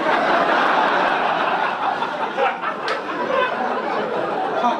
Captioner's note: audience laugh